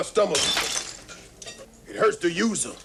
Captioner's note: glass shatters